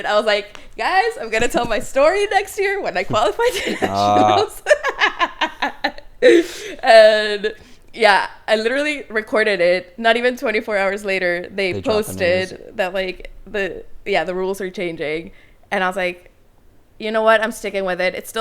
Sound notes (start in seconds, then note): 2.9 laughs